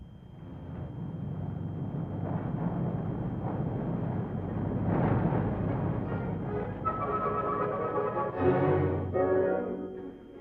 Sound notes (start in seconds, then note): 3.0 fire roaring; 6.1 cheerful music